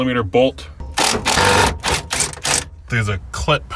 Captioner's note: drill torquing